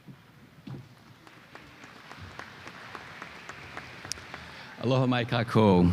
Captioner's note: applause